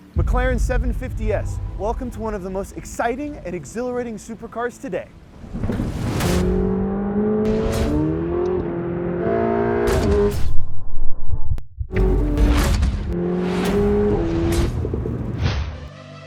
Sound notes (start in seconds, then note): 5.2 car engine revving; 5.3 dramatic music; 8.9 car engine revving; 11.9 car engine revving; 11.9 dramatic music